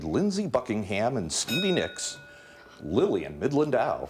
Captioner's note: bell dinging